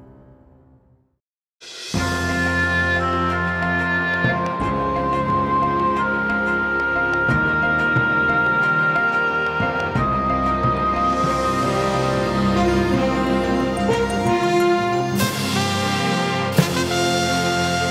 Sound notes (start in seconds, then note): none